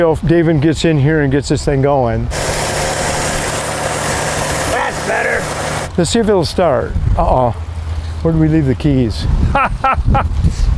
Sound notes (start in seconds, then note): 2.2 engine humming